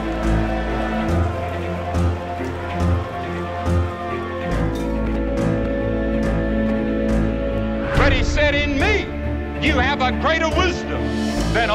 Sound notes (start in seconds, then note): 0.0 crowd shouting; 0.1 dramatic music continuing; 2.9 siren blaring